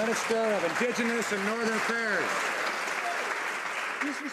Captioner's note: some Applause